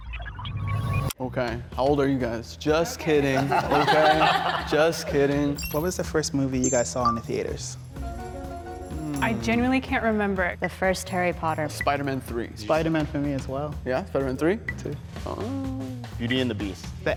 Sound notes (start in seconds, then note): 2.7 all laughing